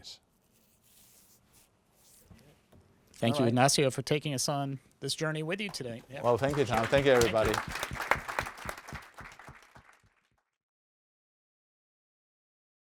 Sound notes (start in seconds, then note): 7.8 applause